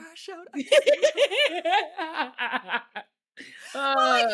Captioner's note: laughing